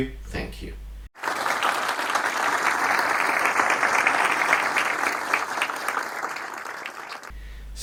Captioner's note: clapping